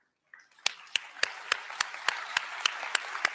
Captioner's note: applause